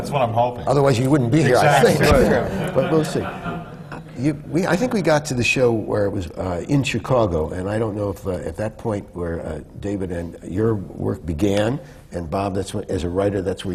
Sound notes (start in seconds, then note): 2.0 laughter